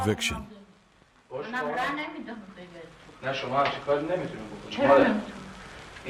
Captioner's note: speaking foreign language